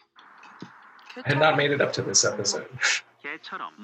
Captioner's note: chuckles